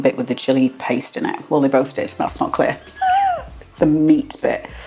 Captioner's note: laugh